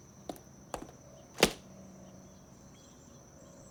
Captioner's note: clicking heels